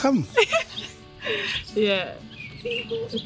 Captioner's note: laughing